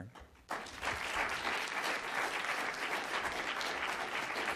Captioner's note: audience applauds